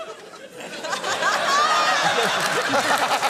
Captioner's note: laughter